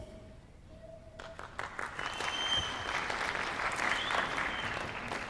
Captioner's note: applause